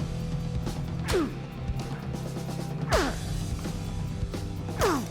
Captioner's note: grunting